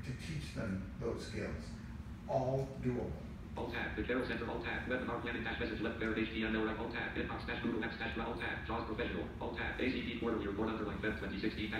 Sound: JAWS speaks

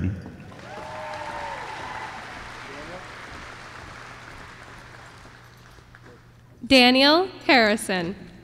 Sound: applause

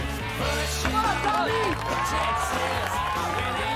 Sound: cheering

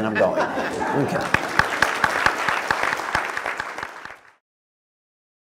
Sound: applause

